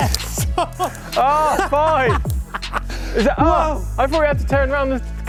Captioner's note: laughing